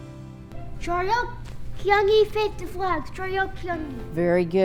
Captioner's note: non-english speech